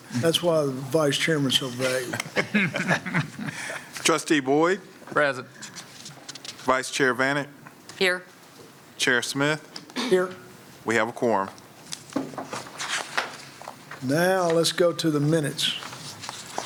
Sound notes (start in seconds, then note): 3.9 laughter